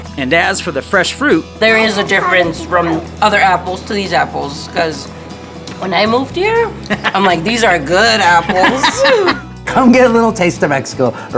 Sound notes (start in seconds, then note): 6.8 laughs